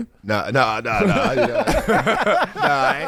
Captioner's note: laughing